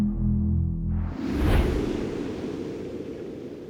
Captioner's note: whoosh